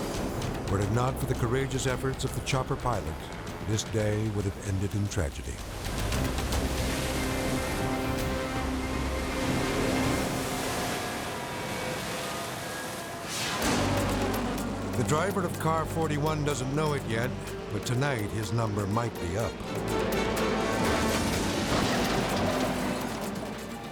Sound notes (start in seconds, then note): 6.0 dramatic music; 6.0 water plashes; 12.9 air whooshes; 20.5 car clashes